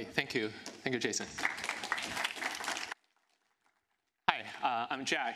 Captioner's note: applause